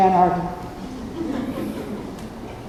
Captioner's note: laughter